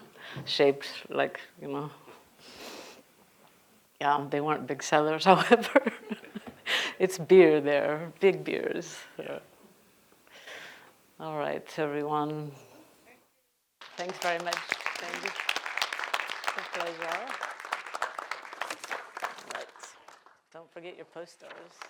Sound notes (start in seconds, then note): 5.3 laughs; 13.8 audience clapping